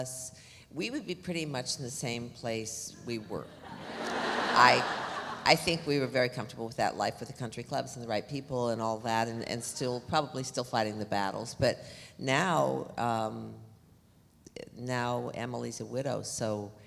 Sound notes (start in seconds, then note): 3.6 audience laughs